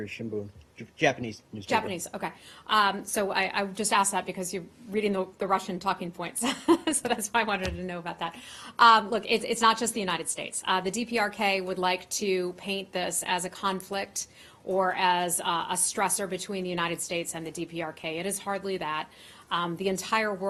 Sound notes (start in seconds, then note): 6.4 laughter